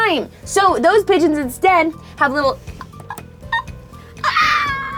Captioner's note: howling